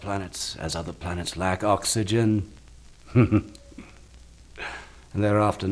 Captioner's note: chuckling